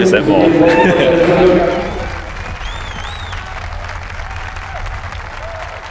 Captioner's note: cheers and applause